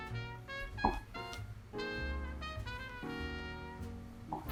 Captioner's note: knife slicing